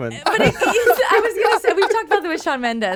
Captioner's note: laughing